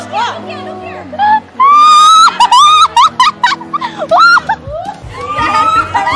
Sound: loughing

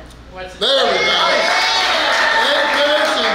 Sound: cheering & Clapping

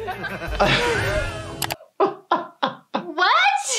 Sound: laughing

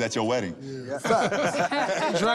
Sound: laughter

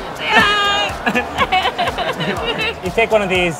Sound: laughing

